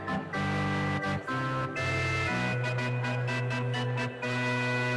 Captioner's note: crowd chattering